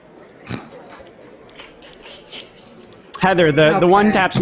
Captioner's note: laughs